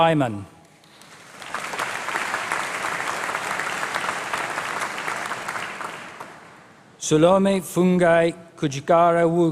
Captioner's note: applause